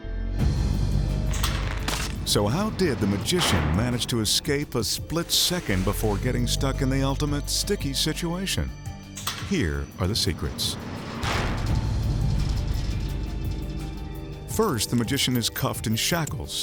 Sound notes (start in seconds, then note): 0.1 tense music; 11.0 spiked panels clanking; 12.1 light mysterious music